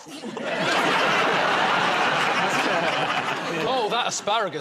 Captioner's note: laughter